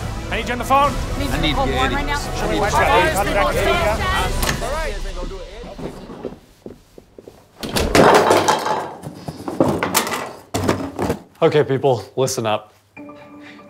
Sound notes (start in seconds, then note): 1.3 chatter; 7.5 objects clattering